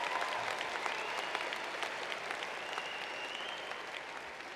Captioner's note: cheers and applause